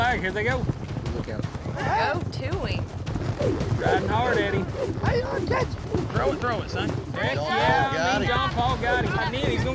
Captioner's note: all shouting